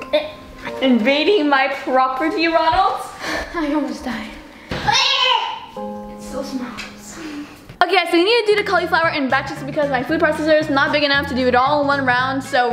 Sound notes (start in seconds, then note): 4.8 screams